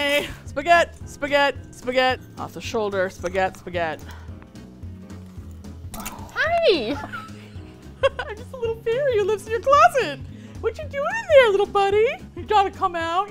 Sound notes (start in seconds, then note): 6.3 high pitched; 6.6 laughs